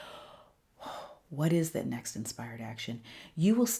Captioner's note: exhales